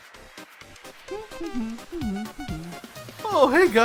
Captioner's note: Bone humming